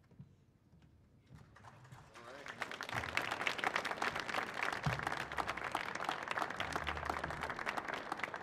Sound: applause

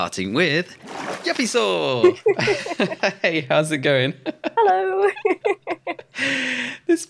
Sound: giggle

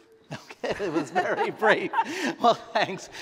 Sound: chuckle

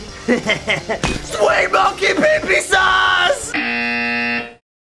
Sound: snickers; screams in pain; buzzer goes off

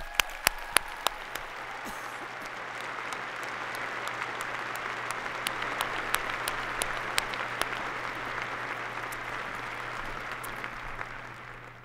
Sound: applause

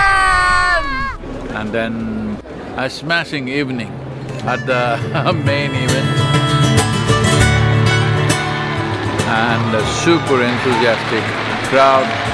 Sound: laughs

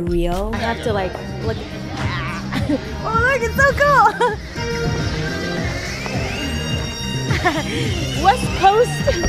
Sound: chatter

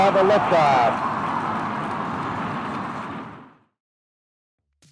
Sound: crowd cheering

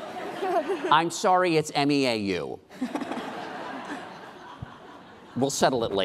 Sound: laughing

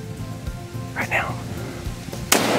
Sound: whispering

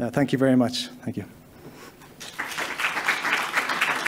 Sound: applause

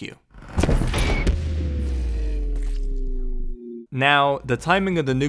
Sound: sound cue followed by nuke

